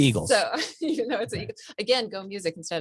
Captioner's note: laughs